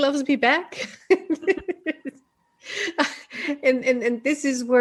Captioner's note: laughing